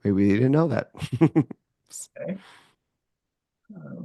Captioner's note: chuckles